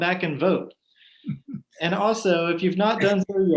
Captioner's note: chuckles